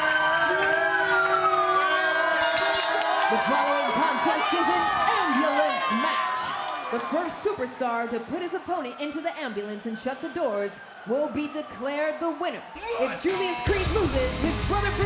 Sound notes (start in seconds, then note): 2.4 bell rings